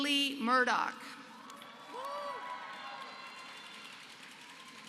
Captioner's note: applause